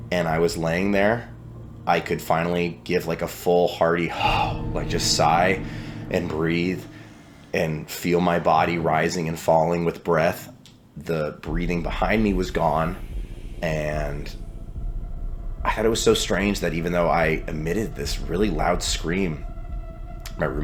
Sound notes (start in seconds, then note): 5.4 sighs